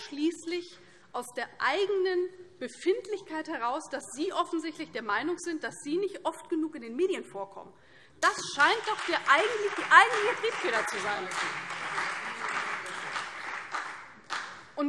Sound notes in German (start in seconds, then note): 11.2 Beifall CDU, BÜNDNIS 90/DIE GRÜNEN und vereinzelt SPD